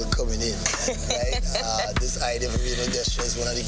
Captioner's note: woman laughing